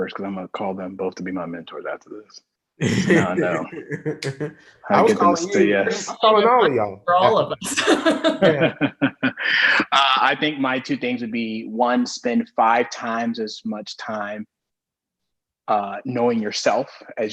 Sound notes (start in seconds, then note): 2.8 laughs; 7.4 all laughing